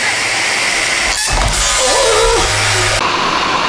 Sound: machine whirring; shrieks; machine whirring

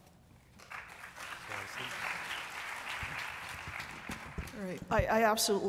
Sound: applause

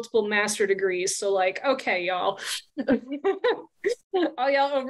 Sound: chuckles

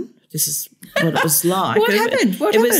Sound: laughter

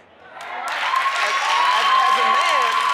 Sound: cheering; applause

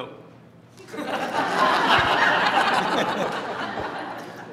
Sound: laughter

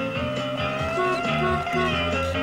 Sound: car horn

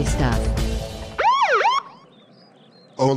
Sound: police Siren

